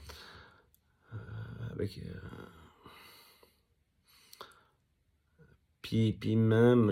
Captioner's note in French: soupir